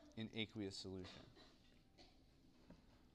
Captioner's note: cough